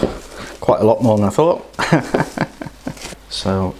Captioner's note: laughs